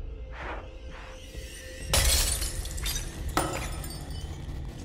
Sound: glass shattering

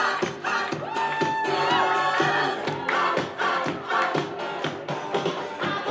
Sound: crowd whoops and claps

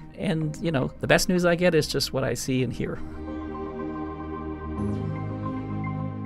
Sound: voiceover

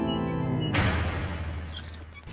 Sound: echoing slam

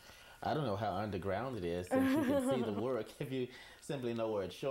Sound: both laugh

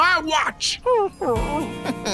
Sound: whimpering; chuckles

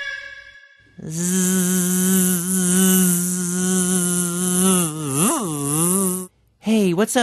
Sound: buzzing

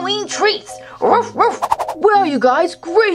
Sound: dog barks

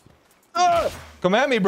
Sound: grunting

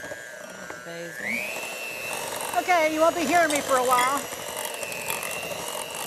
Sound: electric mixer sounds

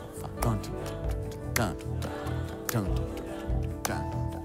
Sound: ticking

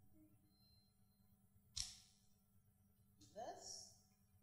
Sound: camera zooming in and clicking

